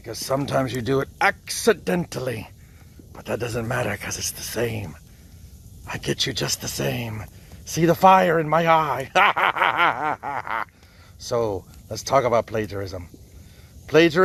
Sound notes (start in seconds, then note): 9.0 laughs